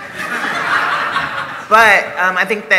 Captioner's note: laughter